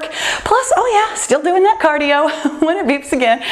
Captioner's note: laughs